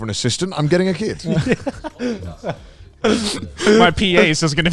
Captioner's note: laughing